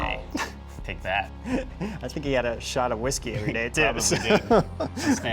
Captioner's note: laughs